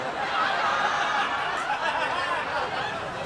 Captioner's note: phaeacians laughing